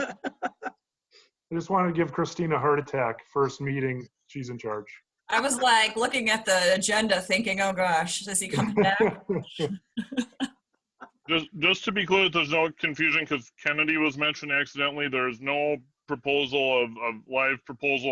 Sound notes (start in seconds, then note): 0.0 laughter; 8.5 laughter